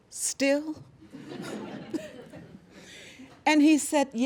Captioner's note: laughter